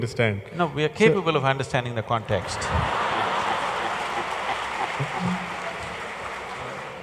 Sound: laughter/ Applause

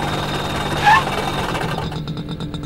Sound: brakes squeal

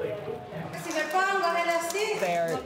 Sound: speaking foreign language

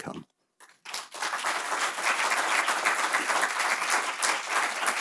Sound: audience applauding

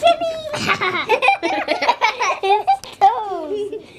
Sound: laughter

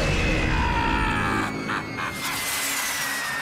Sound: laughter

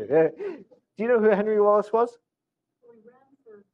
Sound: off microphone

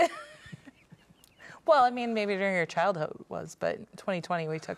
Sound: laughs

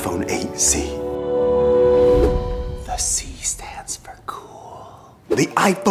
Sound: whisper

